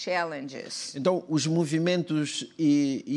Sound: speaking portuguese

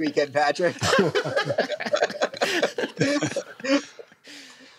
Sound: laughter

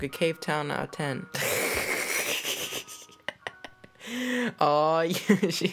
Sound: laughs loudly

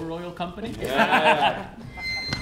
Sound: laughter

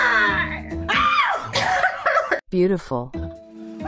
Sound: ahHHHH!

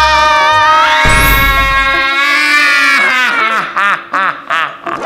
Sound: magic

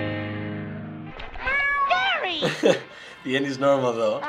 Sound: Gary meowing

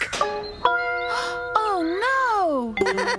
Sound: gasps

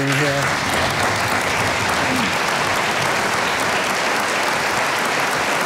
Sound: audience applauding

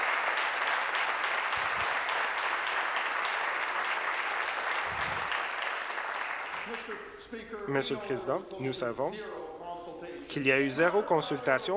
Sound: applause

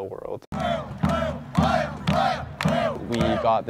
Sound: chanting in Spanish

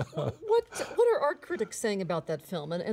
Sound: laughter

